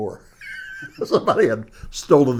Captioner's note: laughs